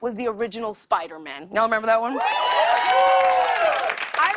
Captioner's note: cheers and applause